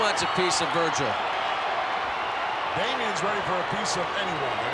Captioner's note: applause